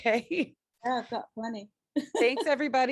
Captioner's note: laughs